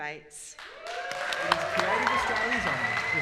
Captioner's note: applause